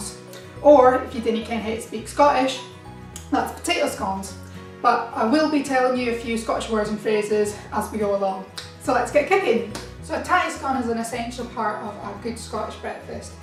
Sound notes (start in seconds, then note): 9.7 claps